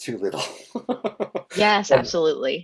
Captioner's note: laughs